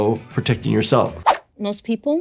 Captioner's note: air whooshing